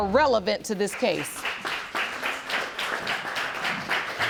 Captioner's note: applause